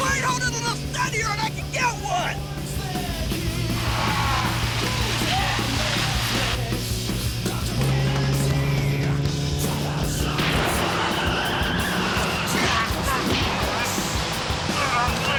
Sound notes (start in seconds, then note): 2.6 intense rock music; 2.6 tires screeching; 10.1 tires screeching